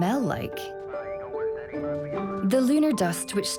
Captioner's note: faint radio transmission